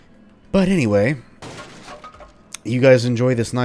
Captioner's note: smash